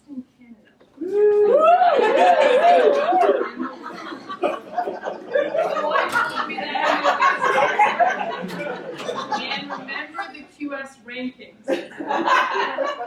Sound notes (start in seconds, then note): 1.0 audience cheers and laughter; 7.5 laughter continues; 11.6 audience laughter